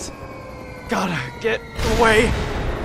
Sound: descending whistle; explosion

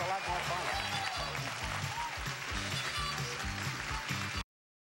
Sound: applause

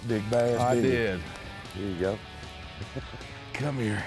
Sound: laughing

